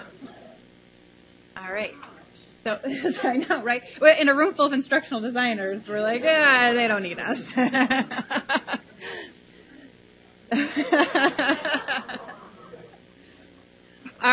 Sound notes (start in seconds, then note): 2.9 laughs; 7.2 laughs; 10.5 audience laughs